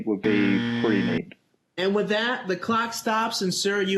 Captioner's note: beep